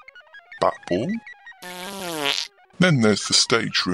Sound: passing wind

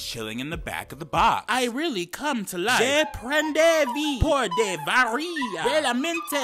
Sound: man speaking gibberish

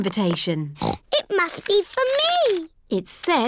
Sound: snorts

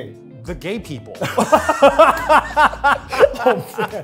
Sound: Phil and Eugene laughing

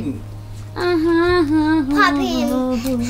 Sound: humming

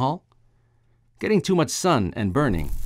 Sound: sound of sizzling

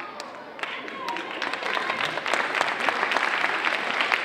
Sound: audience applauding

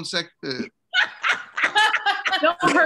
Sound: laughter

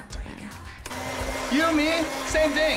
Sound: blender whirring

